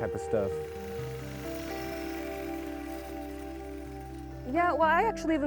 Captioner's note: yard equipment whirring